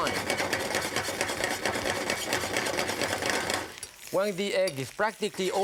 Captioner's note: pan scratching and thudding